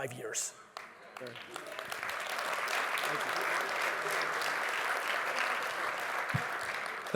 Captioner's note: audience applauds